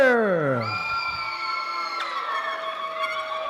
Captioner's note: applause